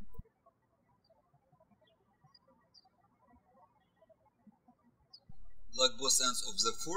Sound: birds chirping

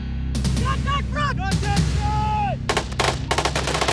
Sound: ominous music; shouting; guns firing

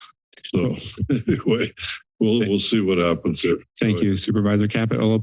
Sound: chuckles

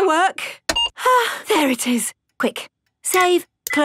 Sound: sighs

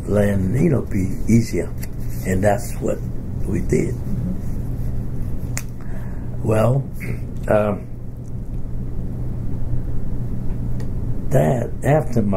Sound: coughs

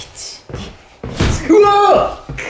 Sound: bang

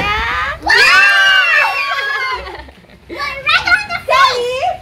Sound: cheerful screaming

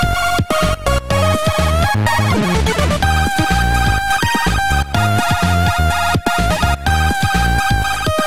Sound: phone ringing

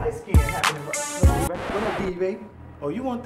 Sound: record scratches

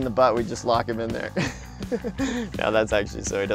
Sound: laughs

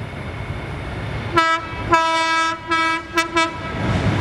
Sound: train Horn

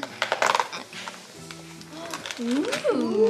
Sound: carton tears

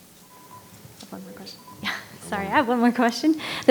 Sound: microphone beeping

